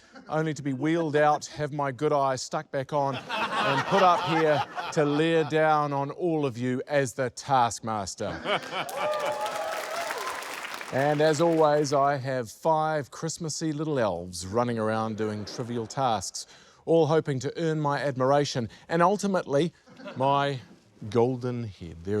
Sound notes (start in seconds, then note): 8.6 cheering, applause